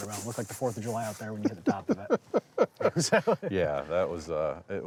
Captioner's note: laughing